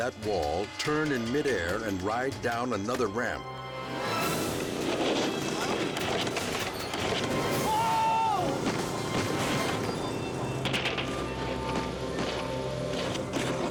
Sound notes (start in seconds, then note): 4.1 dramatic music; 7.6 all screaming; 10.5 tense music